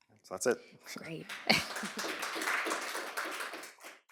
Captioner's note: applause